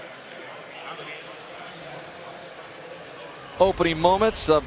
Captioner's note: pa announcement